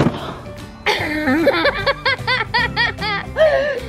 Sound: laughing

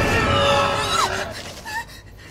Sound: loud Shriek; screams

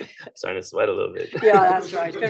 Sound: laughter

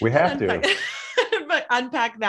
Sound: laughs

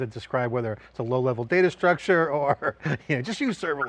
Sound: laughs

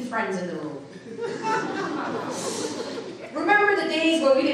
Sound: audience laughing

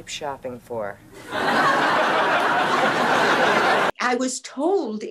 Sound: audience laughing

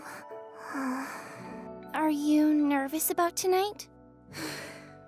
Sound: sighs

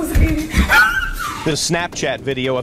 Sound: screaming

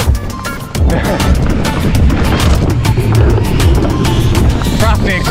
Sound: upbeat music continues; bike clatters

